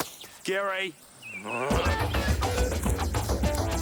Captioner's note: groans; energetic funky music